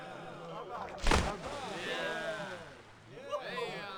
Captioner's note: splash of water